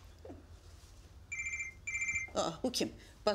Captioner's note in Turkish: Telefon çalıyor